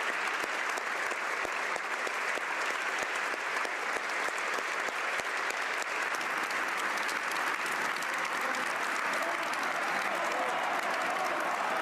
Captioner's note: applause